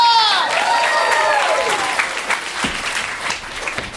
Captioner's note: cheers and applause